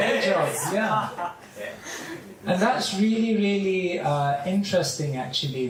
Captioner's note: laughter